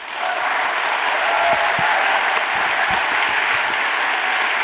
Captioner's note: audience applauding